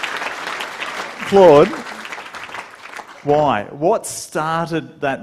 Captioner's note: applause